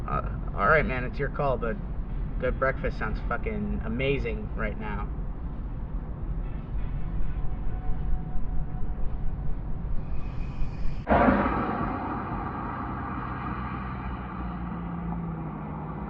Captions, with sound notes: -Alright man, it’s your call. -But... A good breakfast sounds fucking amazing right now. [INHALES NOISILY] [CAR LOUDLY PASSES BY]